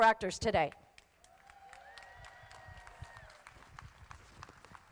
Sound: crowd applauding

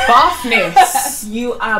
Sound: laughs

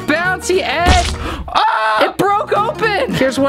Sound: screams

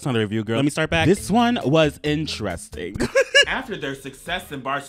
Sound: laughs

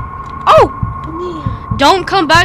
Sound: gasps

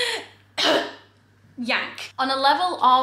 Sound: coughing

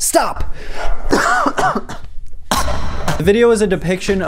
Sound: coughs

